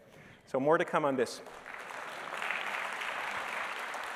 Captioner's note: applause